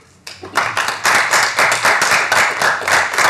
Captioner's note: applause